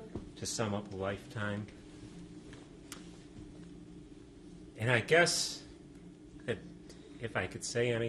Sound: pauses for 3 seconds

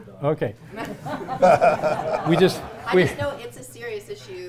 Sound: audience laughing

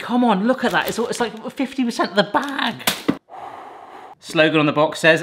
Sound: sighs

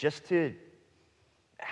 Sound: none

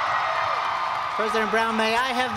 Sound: cheers and applause

